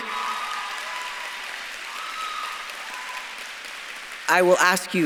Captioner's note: audience claps and cheers